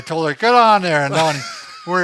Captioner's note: laughing